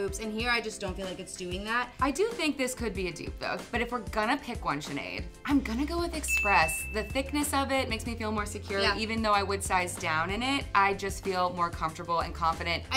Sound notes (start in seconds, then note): 6.2 bell rings